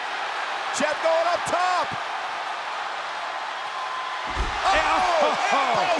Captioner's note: applause